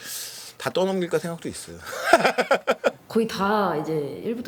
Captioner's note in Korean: 웃음